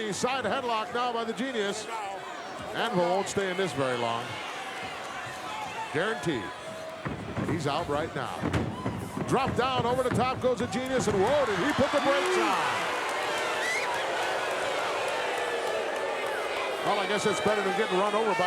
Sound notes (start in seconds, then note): 13.8 audience cheering